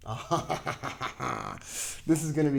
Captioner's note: chuckling